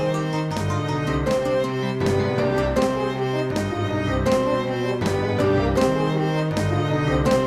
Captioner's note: none